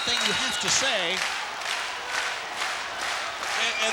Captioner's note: applause